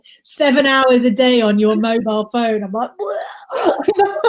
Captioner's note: retching